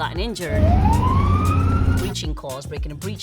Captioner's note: siren wailing